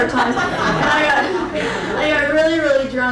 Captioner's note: crowd laughing